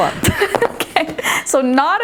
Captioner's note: laughing